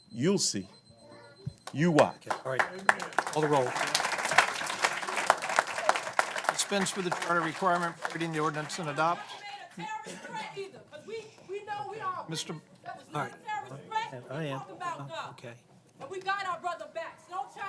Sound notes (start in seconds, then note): 1.9 applause; 9.8 �voices shouting from the audience�